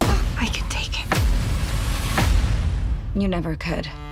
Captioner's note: pounding